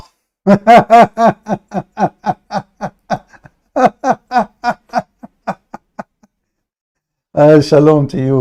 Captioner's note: Ketawa